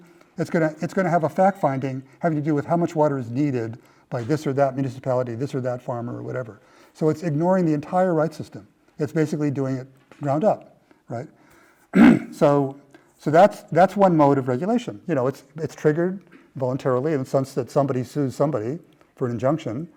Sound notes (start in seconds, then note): 11.9 cough